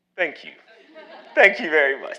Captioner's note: audience laughing